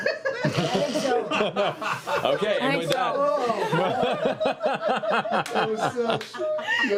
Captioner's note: laughter